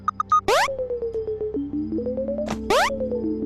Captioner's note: switch beeping; spring boing; beeping scales